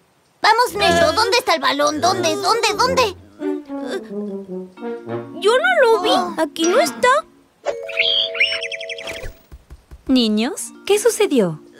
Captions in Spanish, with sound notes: Vamos Nesho ¿Dónde está el balón? ¿Dónde, dónde, dónde? Ehh… Yo no lo vi, aquí no está… (Sonido de pájaro) Niños ¿Qué sucedió?